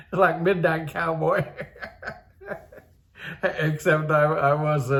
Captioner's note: laughs